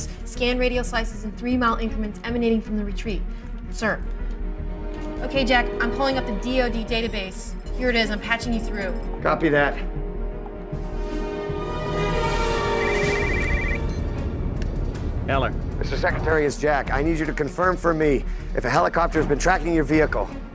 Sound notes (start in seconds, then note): 12.7 ringtone